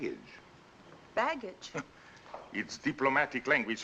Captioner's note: scoffs